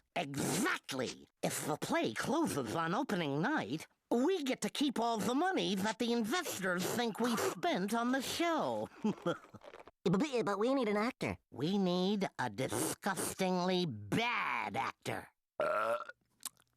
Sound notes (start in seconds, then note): 9.0 chuckling; 15.6 Taz belching